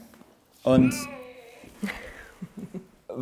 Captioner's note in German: Baby-Geräusch